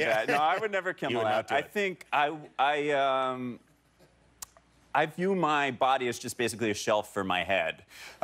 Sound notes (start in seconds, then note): 0.0 laughter